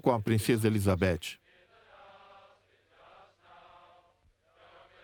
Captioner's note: crowd